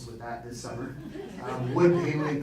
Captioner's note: audience laughing